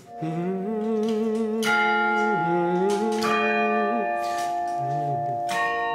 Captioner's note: hums and strikes bells